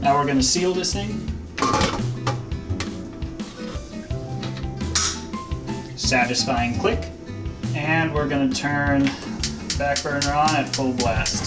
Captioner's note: click